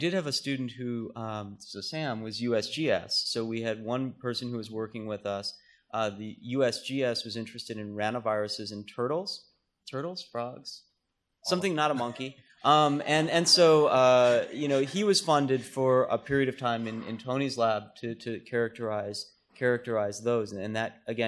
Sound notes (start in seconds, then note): 11.8 laughter